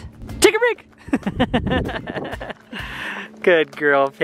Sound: laughs

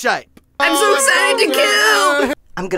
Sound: cheering

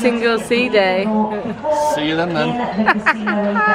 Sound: laughing

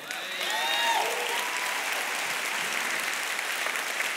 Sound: congregation applauds

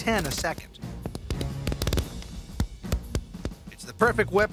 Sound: gun shots

